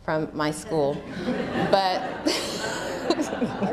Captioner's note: laughter